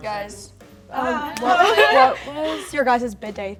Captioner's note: laughing